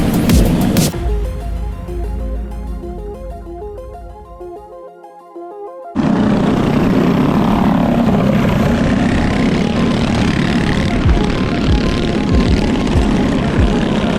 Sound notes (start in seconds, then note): 1.8 music relaxes; 6.0 bike engines rumbling